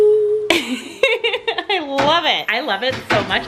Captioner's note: laughs